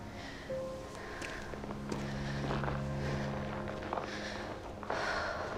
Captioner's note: heavy breathing